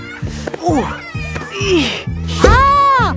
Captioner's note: grunting